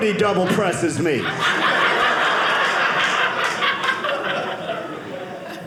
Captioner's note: audience laughing